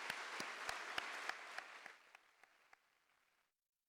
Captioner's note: applause